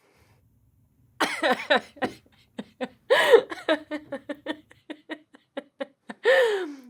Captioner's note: laughing